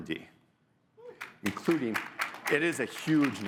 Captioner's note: audience applauding